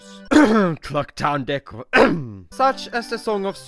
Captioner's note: cough cough